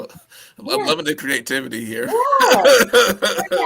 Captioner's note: laughter